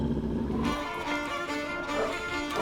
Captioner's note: wolf snarls